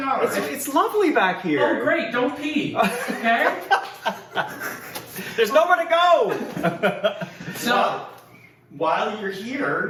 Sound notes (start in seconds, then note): 2.8 laughs off screen